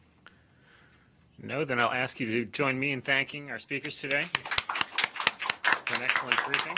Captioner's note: applause